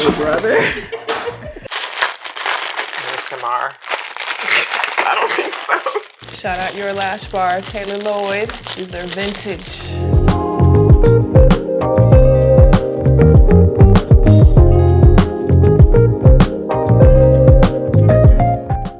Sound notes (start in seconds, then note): 0.0 laughs; 2.1 packaging rustling; 4.4 laughs; 10.3 upbeat music